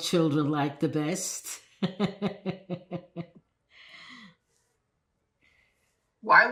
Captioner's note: laughing